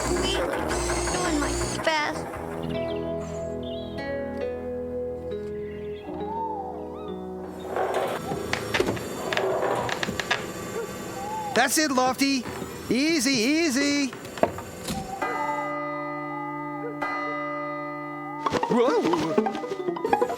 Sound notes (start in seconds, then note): 5.6 owl Hoots; 14.6 clock Chimes